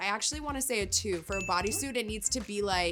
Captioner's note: bell ringing